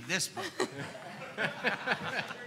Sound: everyone laughs

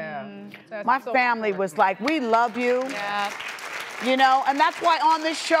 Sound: audience applauding

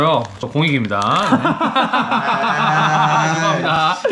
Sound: giggles

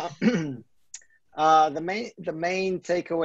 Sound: clearing his throat

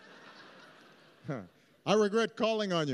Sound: laughter

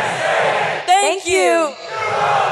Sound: crowd

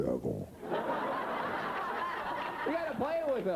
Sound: audience laughs

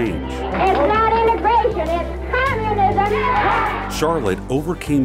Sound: cheers

